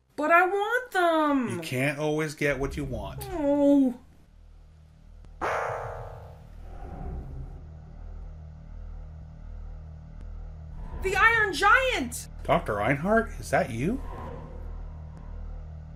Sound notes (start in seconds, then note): 0.6 whiny; 2.9 disappointed noise; 5.4 music sting